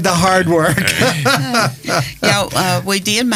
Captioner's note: laughing